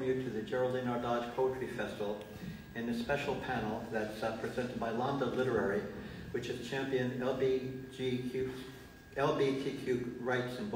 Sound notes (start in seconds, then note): none